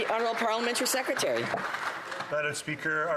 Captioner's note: applause